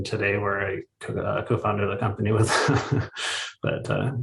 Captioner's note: chuckles